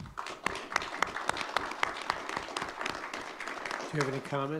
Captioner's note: audience clapping